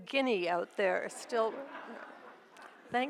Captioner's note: audience laughs